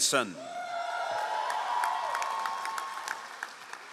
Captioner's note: all applauding